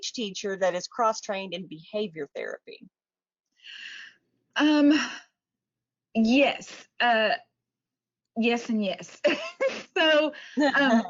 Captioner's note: laughs